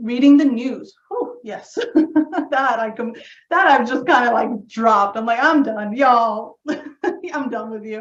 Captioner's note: laugh